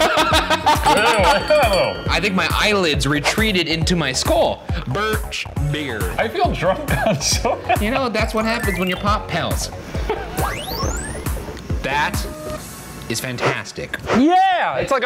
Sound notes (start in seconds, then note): 0.7 shudders; 6.8 laughs